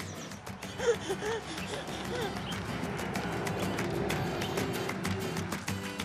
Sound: baby cooing in excitement; mellow music continues

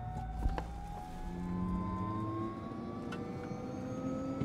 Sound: engine powering up

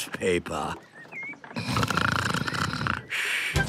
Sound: snoring

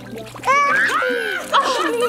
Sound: laughs; squeals

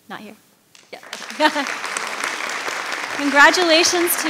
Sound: audience applauding

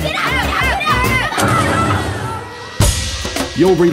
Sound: boom

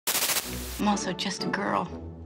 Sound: static buzzing

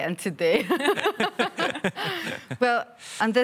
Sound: all laugh

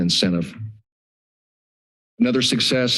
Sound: pause

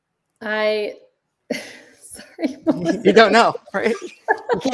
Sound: laughs

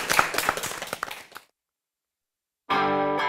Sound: applause

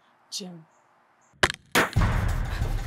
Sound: shot cracks

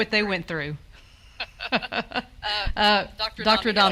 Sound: laughs

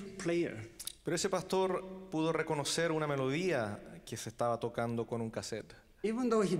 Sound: translating in foreign language

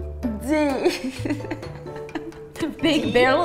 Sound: has chuckles of the omg why?!

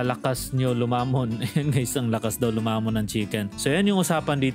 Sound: laughing

